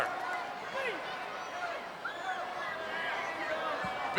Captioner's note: crowd yelling